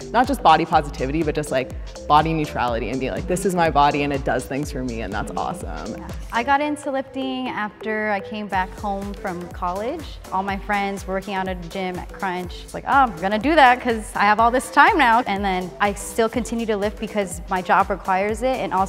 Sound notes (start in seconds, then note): none